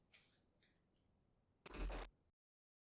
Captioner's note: sharp glitch sound